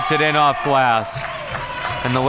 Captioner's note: crowd clapping